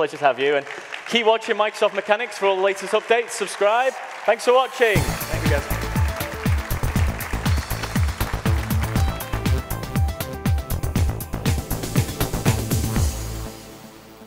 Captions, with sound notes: - Thank you so much, it's been a pleasure to have you and keep watching Microsoft Mechanics for all the latest updates. Subscribe, thanks for watching. (upbeat electronic music) (audience applauding) (upbeat electronic music)